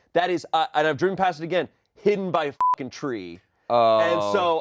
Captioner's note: beep